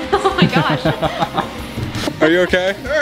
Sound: laughing

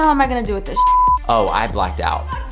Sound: beep

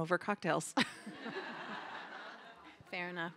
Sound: laughter

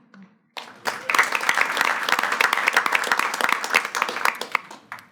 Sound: everyone claps

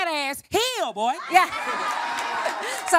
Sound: laughter

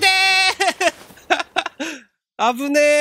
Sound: giggle

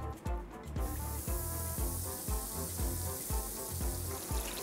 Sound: oil bubbling

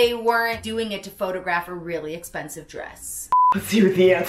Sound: beep

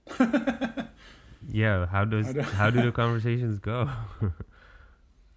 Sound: laughing

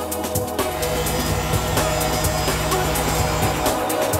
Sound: machine revs

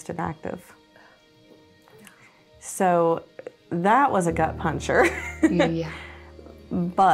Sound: laughs

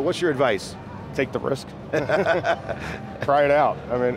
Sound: laughing

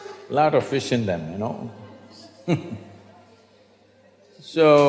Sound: laughter; laughs

